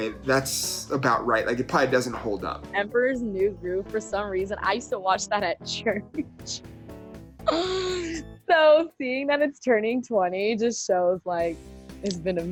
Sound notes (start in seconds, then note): 5.8 laughs